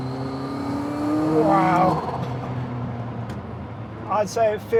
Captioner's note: engine revs